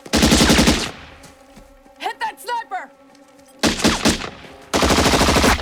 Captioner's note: rifle Fire; machine Gun Fire